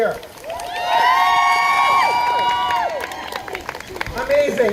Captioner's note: crowd cheering